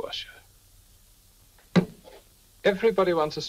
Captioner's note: glass thuds